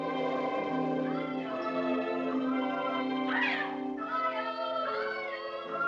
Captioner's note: children's Voices, Echoing